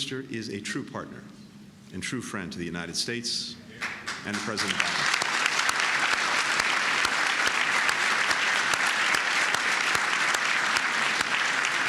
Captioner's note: applause